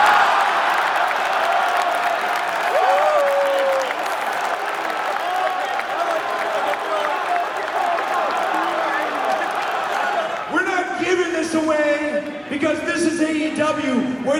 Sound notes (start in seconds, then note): 0.1 crowd laughs; 2.0 crowd claps